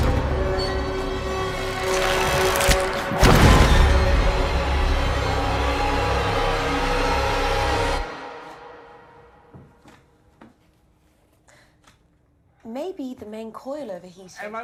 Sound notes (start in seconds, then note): 3.3 body thuds; 4.8 tense music